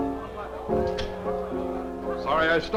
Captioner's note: camera clicking